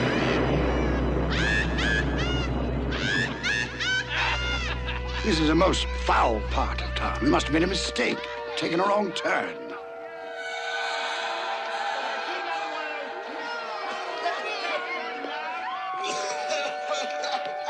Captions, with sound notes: Ha ha ha! - Ha ha ha! - Ha ha ha! This is a most foul part of town. You must've made a mistake, taken a wrong turn. [Talking, laughing] [Coughing]